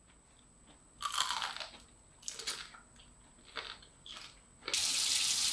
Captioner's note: the sound of the crispy fried kabocha